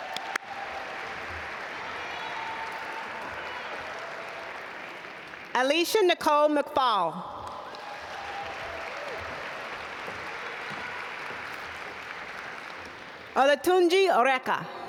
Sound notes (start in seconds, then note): 0.0 audience applaud; 7.4 audience applaud